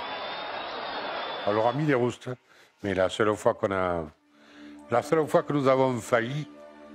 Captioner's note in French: claques